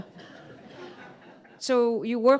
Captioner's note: audience laughing